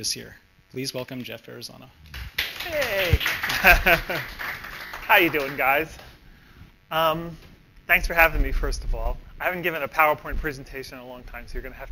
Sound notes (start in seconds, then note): 2.1 applause; 2.6 laughs